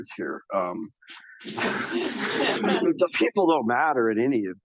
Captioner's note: audience laughs